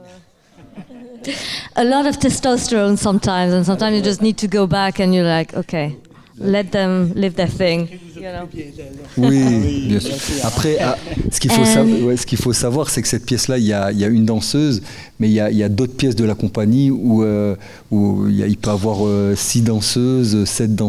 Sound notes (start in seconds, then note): 0.6 chuckling; 7.9 speaking in French